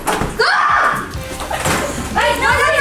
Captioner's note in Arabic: صراخ